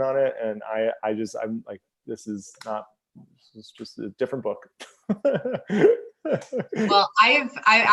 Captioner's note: laughs